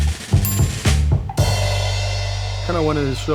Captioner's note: jazzy upbeat music; bell dinging